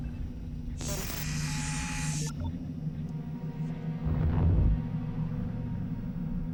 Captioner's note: static hisses